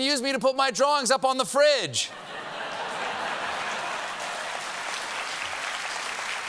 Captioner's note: applause; laughter